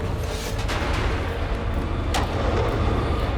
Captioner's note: thunder crashing